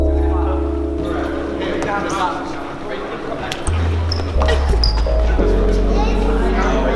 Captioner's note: soft R&B music; people chatting and sneakers squeaking